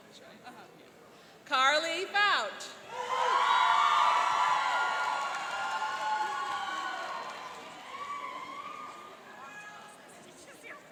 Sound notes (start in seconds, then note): 2.9 cheering and applauding